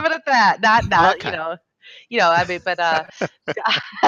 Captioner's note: laughs